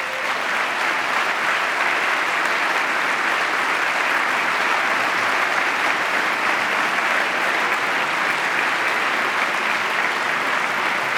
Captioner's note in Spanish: aplauso